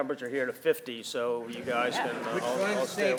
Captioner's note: audience laughing